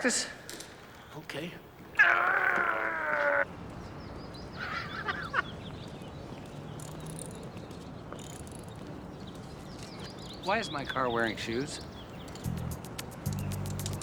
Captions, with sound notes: Practice? Okay. (grunting) (Bridges laughing) Why is my car wearing shoes?